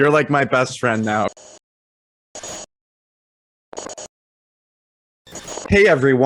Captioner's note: static